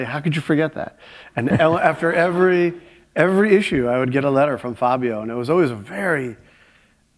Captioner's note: laughter